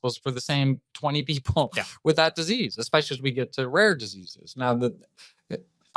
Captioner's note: laughs